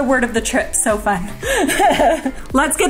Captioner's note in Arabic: يضحك